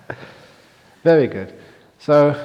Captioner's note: laughs